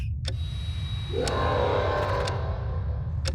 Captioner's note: dragon roar